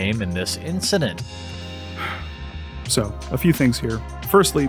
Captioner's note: sigh